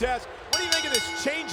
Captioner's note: bell rings